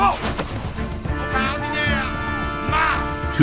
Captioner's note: soldier shouting in French